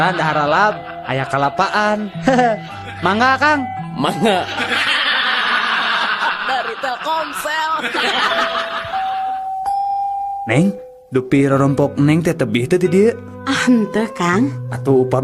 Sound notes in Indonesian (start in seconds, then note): 7.8 lonceng; 8.6 tertawa